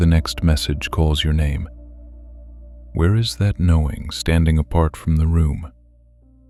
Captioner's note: soft voice